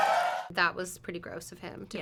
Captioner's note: audience cheers